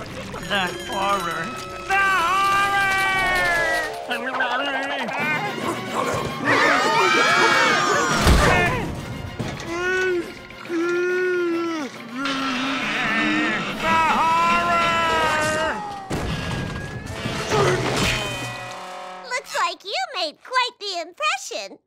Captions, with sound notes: The horror. The horror! [screaming] [babbling] The horror! Looks like you made quite the impression.